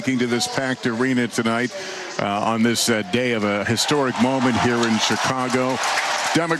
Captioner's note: applause